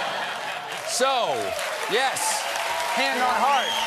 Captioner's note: applause